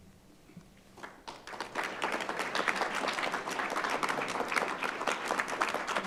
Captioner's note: audience applauding